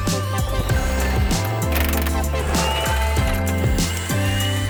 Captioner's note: tools whirring; chill music